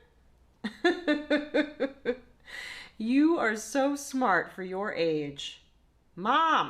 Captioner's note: laughs